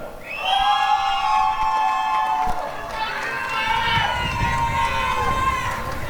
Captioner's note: applause and cheering